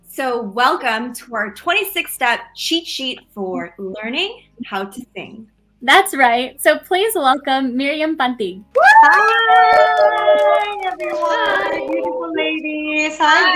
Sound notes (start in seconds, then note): 8.7 cheering